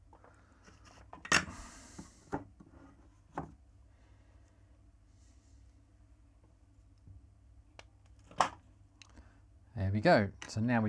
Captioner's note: silence